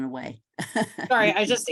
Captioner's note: laughs